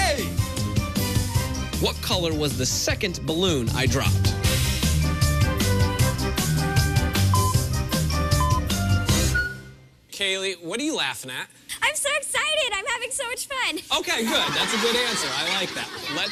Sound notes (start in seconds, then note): 7.3 electronic beeping